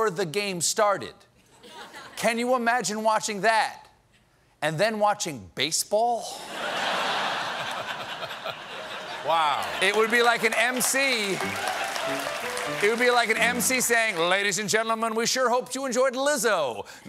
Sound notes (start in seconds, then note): 6.4 laughter